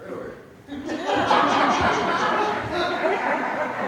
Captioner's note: audience laughs